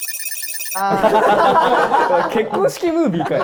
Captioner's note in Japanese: 一同・スタッフ：笑い